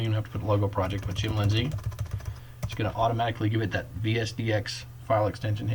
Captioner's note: typing